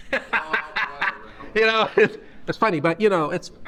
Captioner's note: laughter